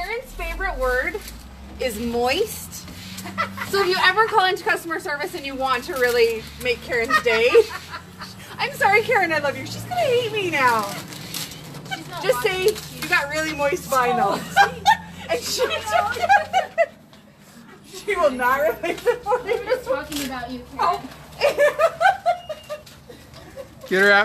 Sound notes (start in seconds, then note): 6.7 laughs; 13.9 women laughing